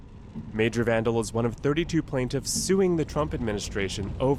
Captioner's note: voice-over